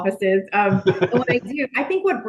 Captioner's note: laughing